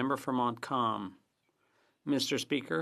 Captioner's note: speaking French